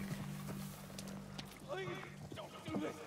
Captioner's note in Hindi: कुछ दूरी की आवाज़ें